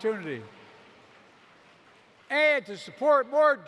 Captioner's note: applause